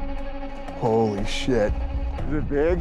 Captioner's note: speaking quietly